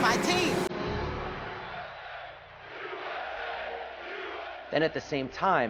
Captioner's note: chanting